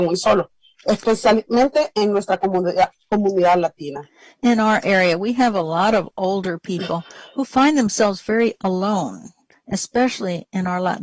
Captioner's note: speaking spanish